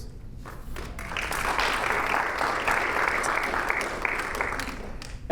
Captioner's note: audience applauding